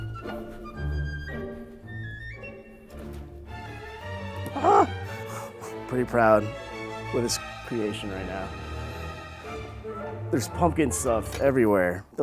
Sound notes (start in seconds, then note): 0.0 whimsical classical music; 4.5 exclaims